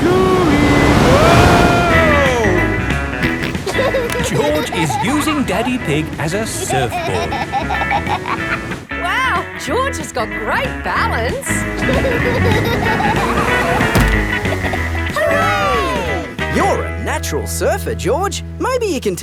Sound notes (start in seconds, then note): 3.2 snorts and laughs; 11.5 laughing